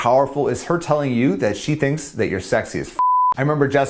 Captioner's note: beep